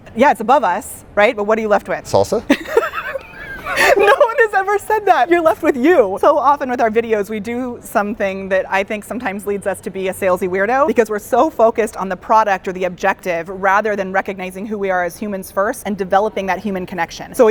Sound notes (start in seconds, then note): 2.4 laughing